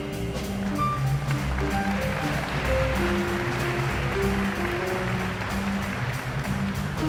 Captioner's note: audience applauds